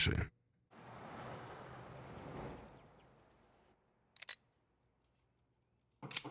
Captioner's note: cars driving; birds chirping; gun cocks